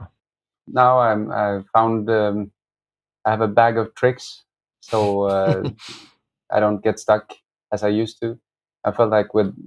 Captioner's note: laughter